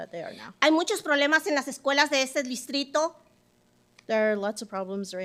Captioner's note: speaking Spanish